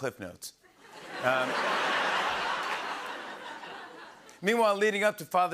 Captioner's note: laughter and applause